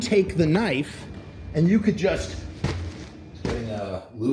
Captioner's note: stabbing impact on plastic